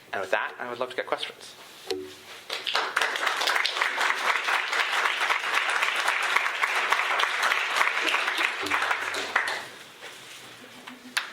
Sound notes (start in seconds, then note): 2.4 applause